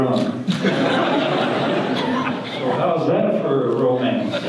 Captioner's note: audience laughter